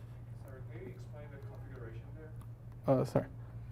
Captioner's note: faintly speaking